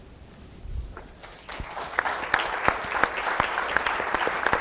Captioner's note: applause